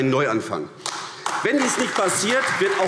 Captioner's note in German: Beifall AfD